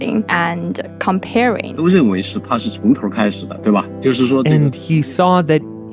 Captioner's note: speaking Mandarin Chinese